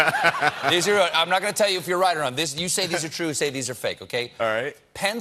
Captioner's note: laughter